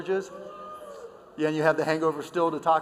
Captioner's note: boos